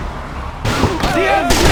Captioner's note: gunshots